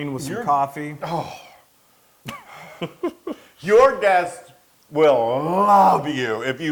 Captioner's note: laugh